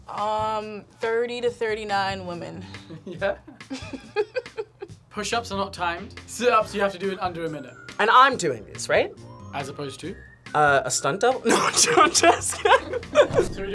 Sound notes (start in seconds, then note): 2.8 laughs; 11.5 laughs